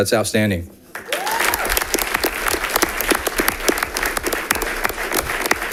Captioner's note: audience applauding